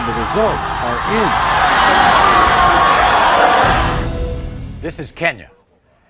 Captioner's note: audience yelling